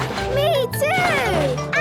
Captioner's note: slurping